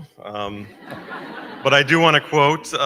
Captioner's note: crowd laughing